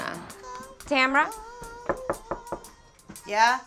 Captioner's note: knocking